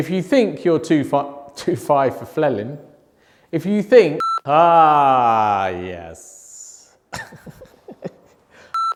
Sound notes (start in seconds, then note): 4.2 beeping; 7.1 laughing; 7.2 beeping